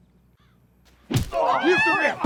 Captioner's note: birds squawking; punching sound; screams